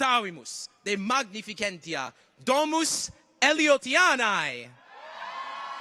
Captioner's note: continues to speak in Latin; audience cheers